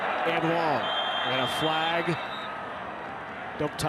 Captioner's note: referee blows whistle